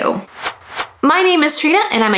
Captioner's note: logo whooshing